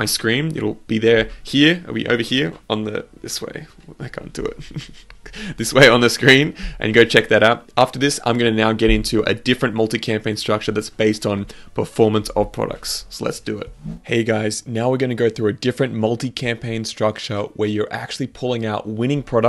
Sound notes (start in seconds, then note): 4.2 chuckles